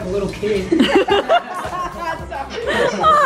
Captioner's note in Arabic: يضحك